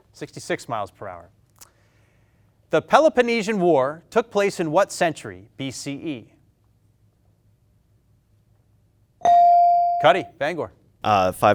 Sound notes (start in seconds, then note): 9.2 bell dings